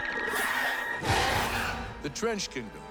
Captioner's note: snarling